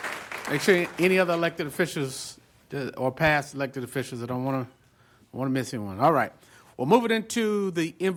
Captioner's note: applause